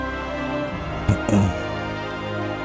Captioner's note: clearing the throat